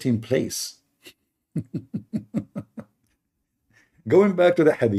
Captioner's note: Ketawa